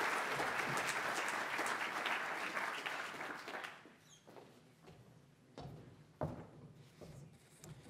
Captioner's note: audience applauds